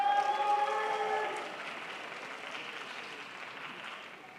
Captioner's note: crowd applauds